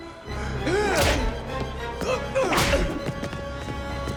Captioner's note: blows thudding